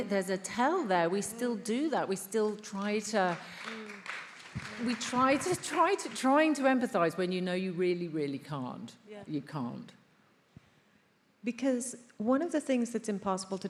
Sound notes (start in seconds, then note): 2.7 attendees applauding